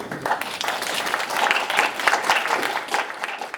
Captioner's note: applauding